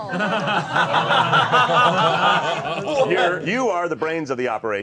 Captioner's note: all laughing